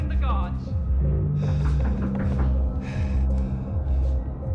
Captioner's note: knocks; Palle breathes deeply